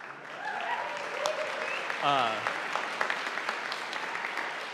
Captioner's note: audience applauding